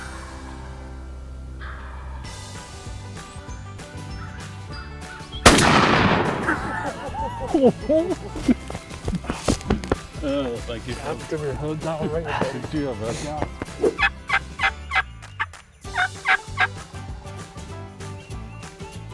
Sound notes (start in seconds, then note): 1.6 turkey calls; 5.4 gun fires; 15.9 mimicking turkey call